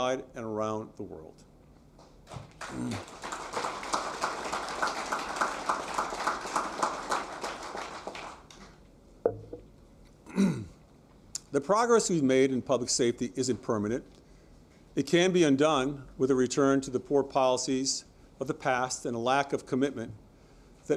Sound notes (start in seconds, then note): 5.4 applause